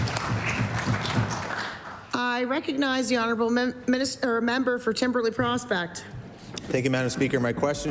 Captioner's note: applause